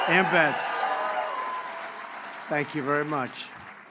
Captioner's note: applause